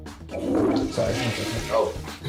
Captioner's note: toilet flushes